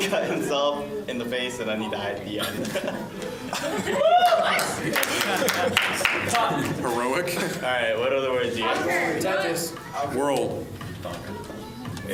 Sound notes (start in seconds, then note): 2.4 laughs; 3.8 cheering